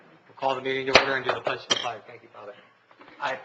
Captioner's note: gavel raps